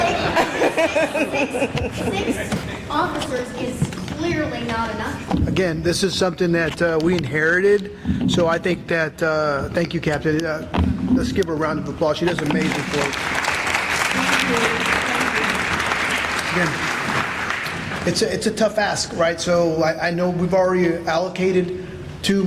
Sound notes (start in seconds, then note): 12.3 applause